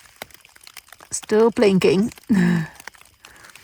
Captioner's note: lauhgs